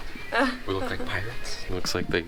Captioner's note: laughs